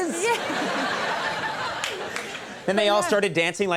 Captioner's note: audience laughing